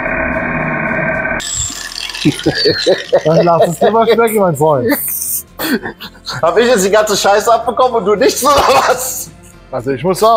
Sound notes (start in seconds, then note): 2.1 laughing